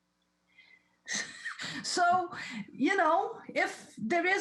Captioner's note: laughs